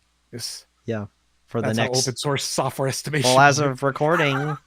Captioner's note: laughs